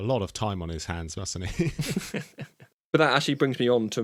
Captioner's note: both Laugh